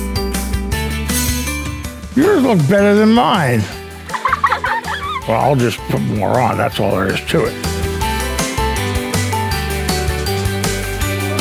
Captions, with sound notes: Yours look better than mine! (laughter) I'll just put more on, that's all there is to it. (festive music)